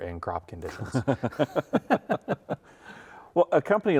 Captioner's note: both laughing